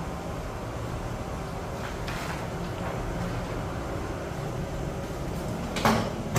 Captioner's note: covering paper noise; press machine noise